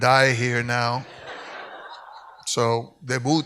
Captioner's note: audience laughs; speaks in Spanish